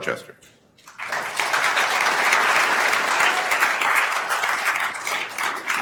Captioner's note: attendees applauding